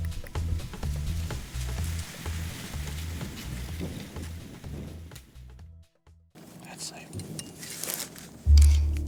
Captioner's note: whispering